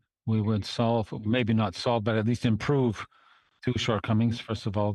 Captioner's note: speaking French